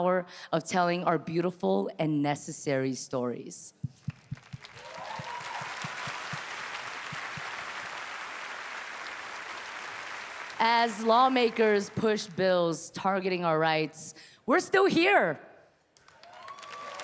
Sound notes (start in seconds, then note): 4.6 audience cheering